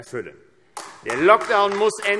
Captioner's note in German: Beifall AfD